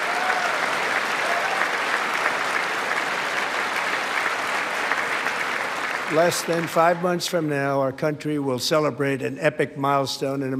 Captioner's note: applause